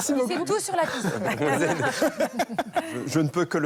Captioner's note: laughter